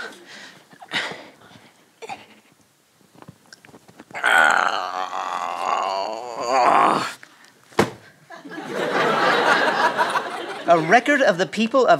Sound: grunting

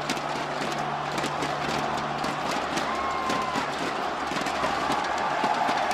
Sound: crowd chants 'Hungrybox'

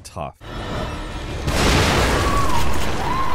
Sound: tense dramatic music; explosion booming; Laura screaming

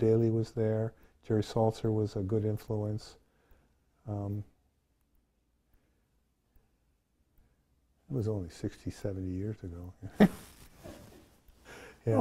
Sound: laughs

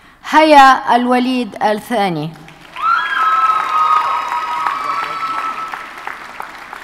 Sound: audience cheers and applauds

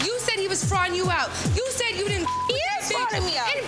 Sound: beep

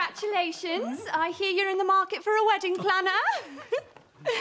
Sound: giggles

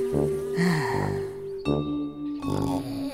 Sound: woman sighing; snoring

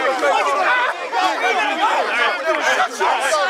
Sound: yelling

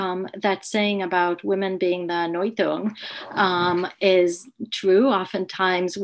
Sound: speaks in foreign language

